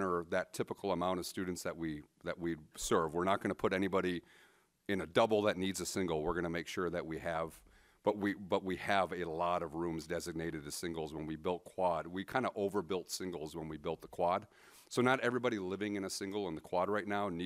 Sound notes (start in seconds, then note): none